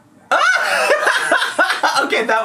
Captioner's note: laughing